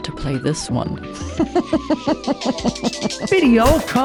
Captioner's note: laughter